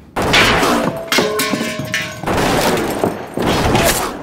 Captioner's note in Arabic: طلقات نارية